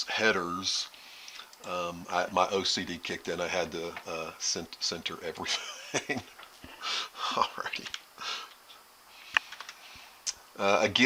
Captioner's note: laughing